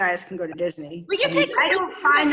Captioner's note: laughs